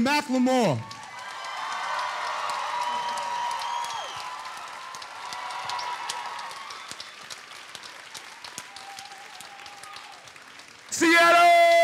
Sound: applause

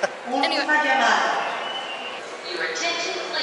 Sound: laughs; announcement on overhead speakers continues

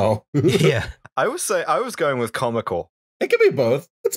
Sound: laughter

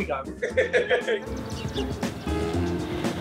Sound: laughing; car humming

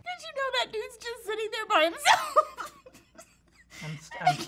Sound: laughs

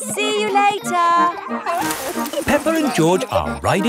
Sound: peppa and george laughing

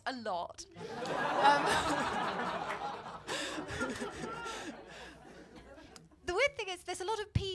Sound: laughter

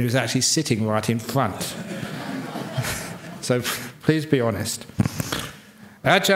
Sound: laughter

